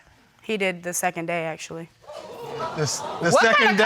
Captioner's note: audience exclaiming